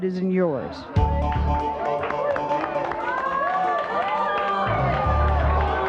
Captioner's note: audience applauds and boos